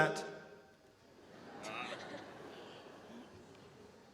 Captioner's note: audience laughter